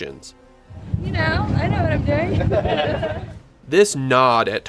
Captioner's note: laughter